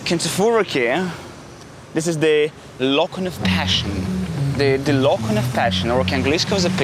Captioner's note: speaking in English